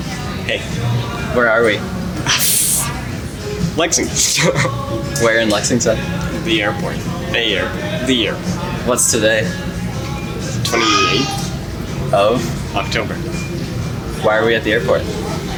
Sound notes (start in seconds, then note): 2.3 scoffs; 4.6 chuckles